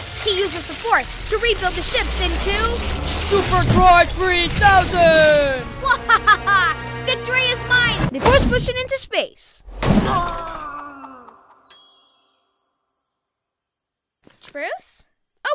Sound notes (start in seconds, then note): 10.0 yells